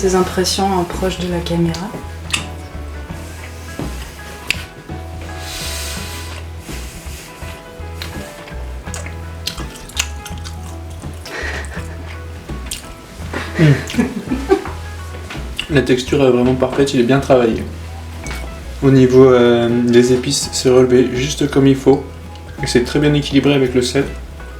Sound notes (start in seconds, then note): 9.2 chewing noises